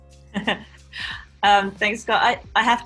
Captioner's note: woman laughing